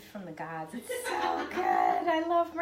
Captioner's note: laughing